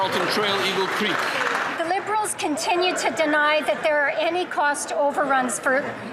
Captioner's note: some Applause